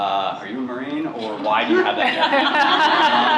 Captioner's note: laughter